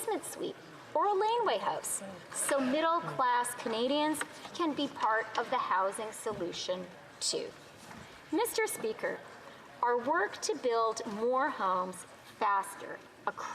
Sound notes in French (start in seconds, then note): 3.5 voix de l'interprète